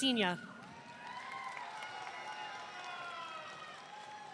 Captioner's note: audience cheering